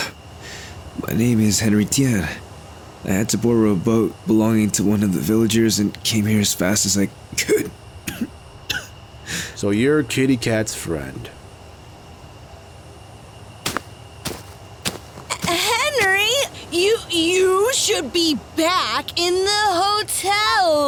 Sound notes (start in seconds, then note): 8.0 coughs